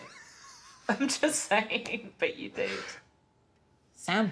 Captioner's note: laughing